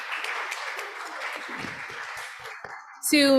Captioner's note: applause